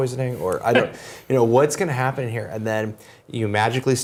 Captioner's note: laugh